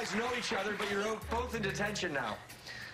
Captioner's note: cheers and applause